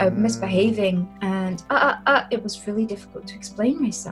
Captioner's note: none